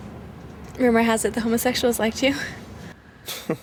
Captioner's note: laughs